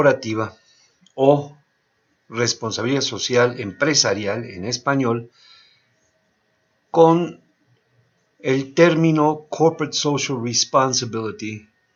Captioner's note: in Spanish